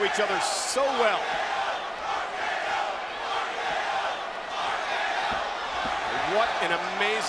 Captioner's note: applause